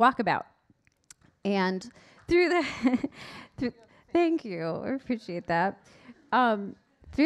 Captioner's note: laughs